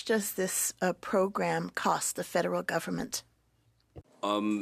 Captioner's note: speaking French